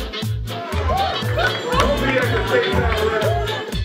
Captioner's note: laughing